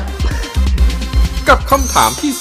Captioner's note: laughing